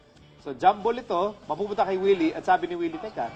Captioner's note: speaking in foreign dialect